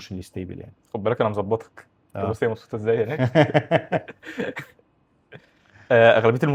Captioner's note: laughs